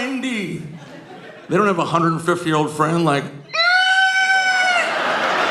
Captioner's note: screeching